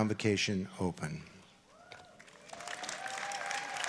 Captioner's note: applause